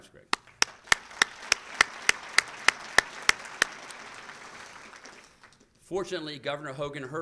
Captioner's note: applause